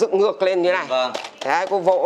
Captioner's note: patting sounds